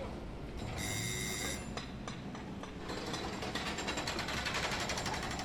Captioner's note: construction din; doorbell rings